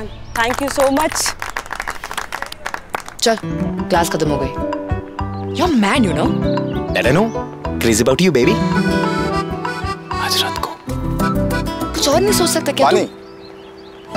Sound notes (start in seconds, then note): 0.3 all clapping; 10.1 whispers